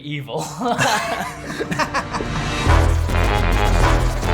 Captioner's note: laughter; dramatic music